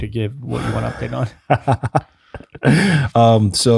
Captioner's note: ft. laughing